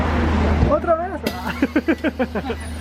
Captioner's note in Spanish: risas